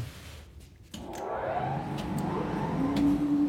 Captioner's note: machine starts